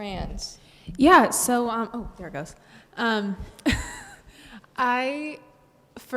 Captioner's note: laughs